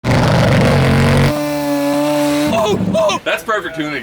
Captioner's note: engines revving; shouting